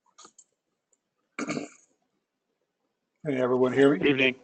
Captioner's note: cough